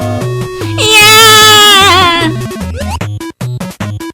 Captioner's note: l screams!